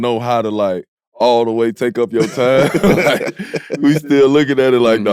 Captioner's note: laughs